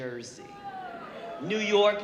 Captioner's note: audience gasping